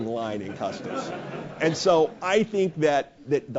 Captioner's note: laugh